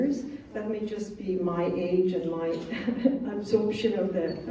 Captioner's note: chuckle